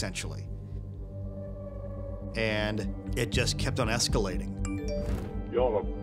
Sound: chime

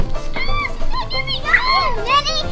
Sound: screams

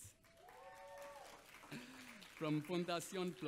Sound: audience applauds

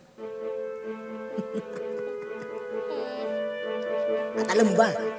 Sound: Michael whines; chuckles

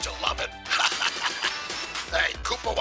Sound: laughs

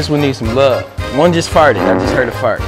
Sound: flatulates

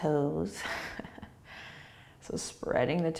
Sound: laughing

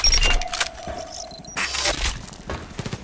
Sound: reloads; step on metal

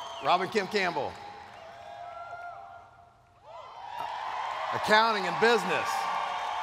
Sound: cheers

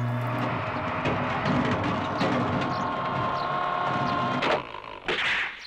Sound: whirring

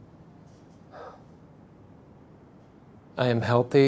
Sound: sigh

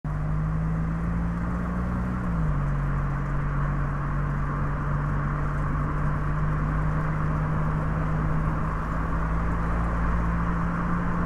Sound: road noise

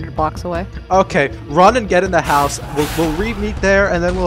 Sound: explosions

